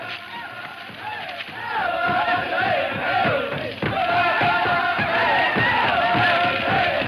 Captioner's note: men chanting; drum music